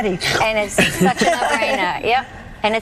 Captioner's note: laughing